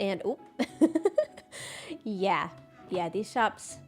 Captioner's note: laughs